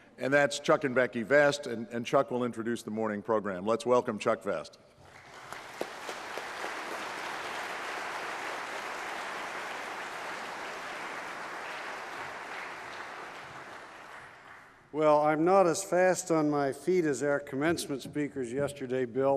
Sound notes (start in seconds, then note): 5.2 applause